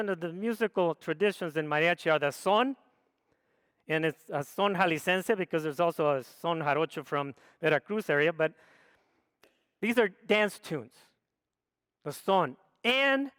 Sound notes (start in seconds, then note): 2.6 speaks foreign language; 12.4 speaks foreign language